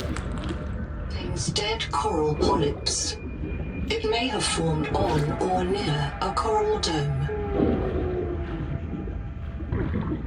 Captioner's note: having fun noises